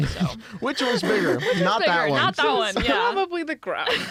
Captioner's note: laughing